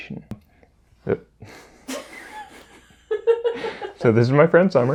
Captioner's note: both chuckle